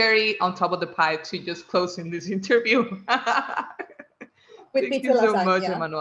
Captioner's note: laughs